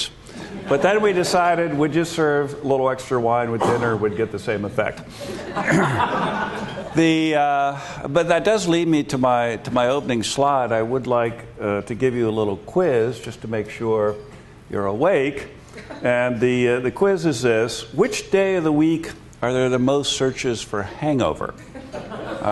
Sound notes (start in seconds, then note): 5.2 laughter